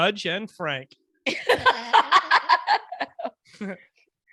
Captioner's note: laughing